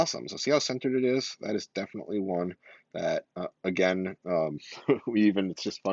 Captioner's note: laughs